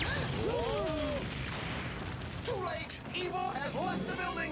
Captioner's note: rumbling